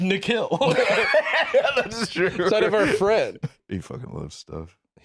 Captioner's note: laughing